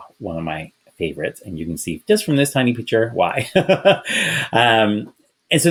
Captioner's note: laughs